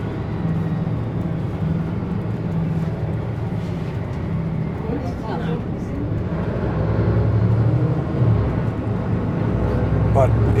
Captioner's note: sound of bus driving